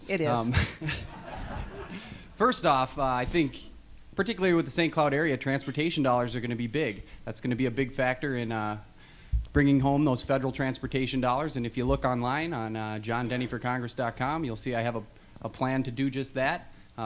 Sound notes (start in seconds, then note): 0.3 laughs; 0.5 audience laughs